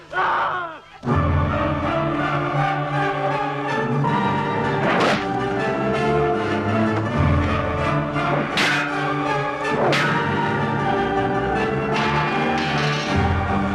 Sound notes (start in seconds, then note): 0.2 all yelling; 1.1 intense operatic music; 4.8 sword slices; 8.4 swords clanging